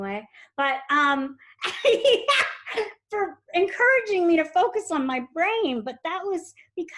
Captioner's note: giggles